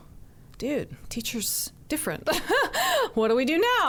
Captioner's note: laughs